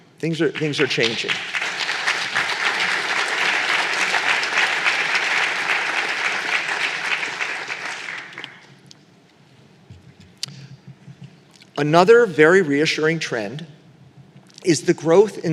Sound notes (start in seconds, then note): 0.5 applause